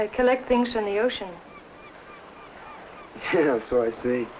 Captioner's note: seagull cawing